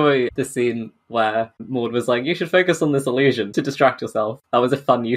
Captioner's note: laughing